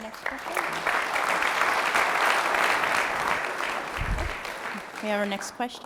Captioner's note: applause